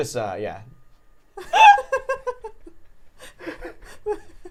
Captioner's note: laughing